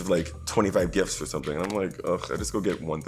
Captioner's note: scoffs